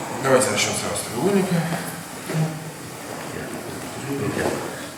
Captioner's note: speaking in a foreign language